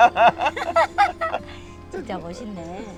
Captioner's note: both laughing